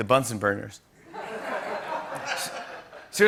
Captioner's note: laughter